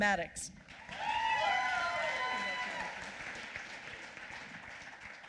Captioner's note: applause